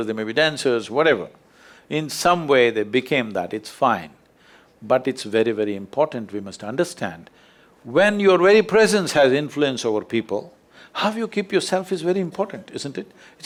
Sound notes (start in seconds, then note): none